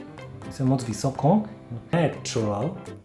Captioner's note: Czech language